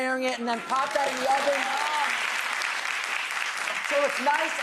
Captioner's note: audience cheering